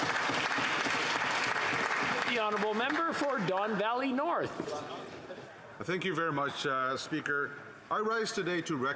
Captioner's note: applause